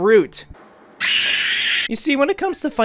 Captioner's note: baby scream